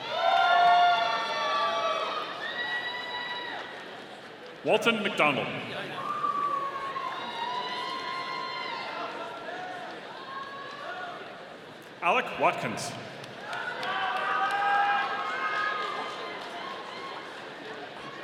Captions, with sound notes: (audience cheering) Walton McDonald. (audience cheering) Alec Watkins. (audience cheering)